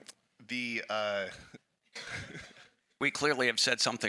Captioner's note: chuckles